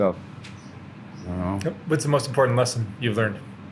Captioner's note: birds chirp